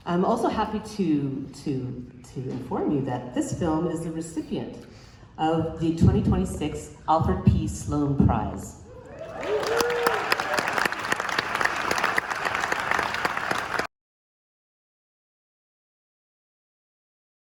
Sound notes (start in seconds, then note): 9.2 applause